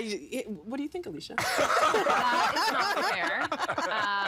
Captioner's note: all laughing